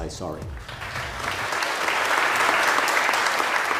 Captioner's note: applause